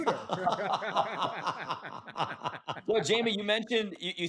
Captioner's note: laughter